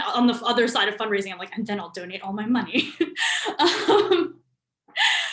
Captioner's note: laughs